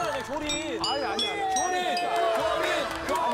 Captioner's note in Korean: 딩동댕